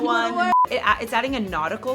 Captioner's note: laughs; beep